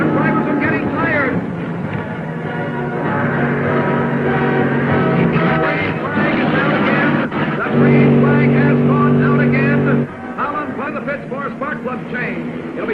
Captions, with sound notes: The drivers are getting tired. (dramatic music) (cars revving) The green flag is down again. The green flag has gone down again. Holland going to the pits for a spark plug change.